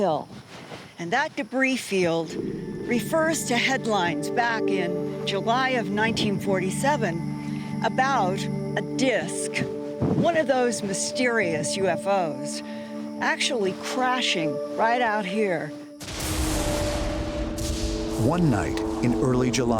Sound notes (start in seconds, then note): 16.0 lightning strikes